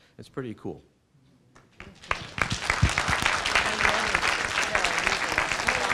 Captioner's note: applause